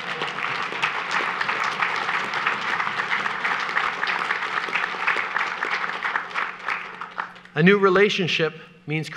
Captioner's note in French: Applaudissements